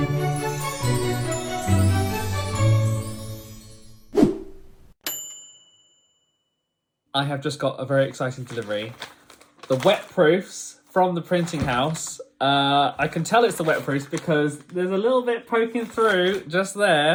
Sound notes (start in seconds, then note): 0.2 intro music plays; 4.1 screen whooshing; 5.0 bell dinging